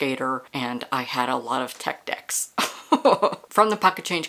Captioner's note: laughter